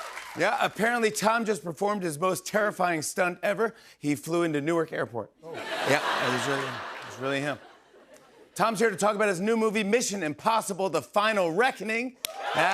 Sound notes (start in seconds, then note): 0.0 cheers and applause; 5.5 laughter